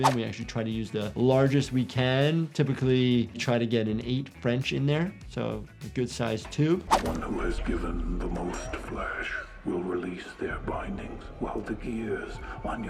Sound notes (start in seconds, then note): 7.1 voiceover